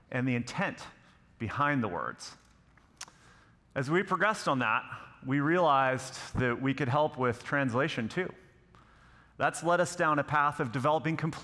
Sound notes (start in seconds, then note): none